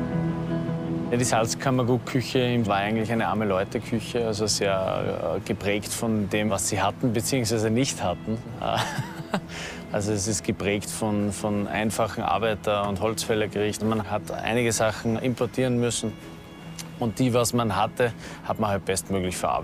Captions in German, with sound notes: Die Salzkammergut-Küche war eigentlich eine Arme-Leute-Küche, also sehr geprägt von dem, was sie hatten, beziehungsweise nicht hatten. (Er lacht.) Also, es ist geprägt von einfachen Arbeiter- und Holzfällergerichten. Man hat einige Sachen importieren müssen und die, was man hatte, hat man bestmöglich verarbeitet,